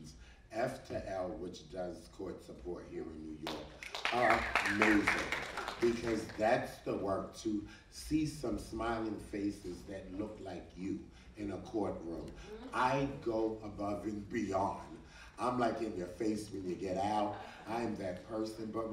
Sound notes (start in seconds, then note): 4.0 audience cheering